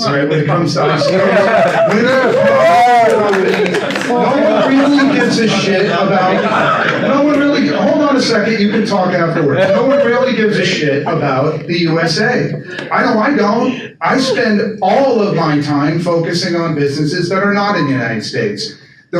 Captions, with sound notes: when it comes to ICOs. (audience cheers and applauds) No one really gives a shit about-- (audience talking) Hold on a second, you can talk afterwards. No one really gives a shit about the USA. I know I don't. I spend all of my time focusing on businesses that are not in the United States.